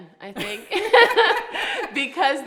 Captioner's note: laughing